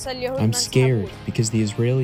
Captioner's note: through translator